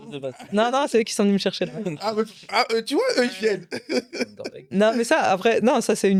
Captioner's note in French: rires; rires